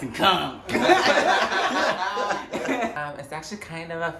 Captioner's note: all laughing